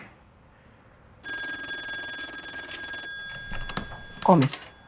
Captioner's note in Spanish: Suena el teléfono